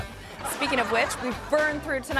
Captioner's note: audience laughing